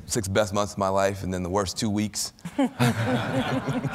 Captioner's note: laughter